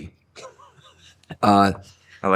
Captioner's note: laughing